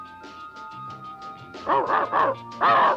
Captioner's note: Arrow barking